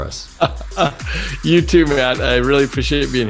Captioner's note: laugh